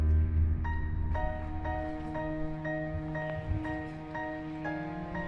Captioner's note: gentle music; wind whistling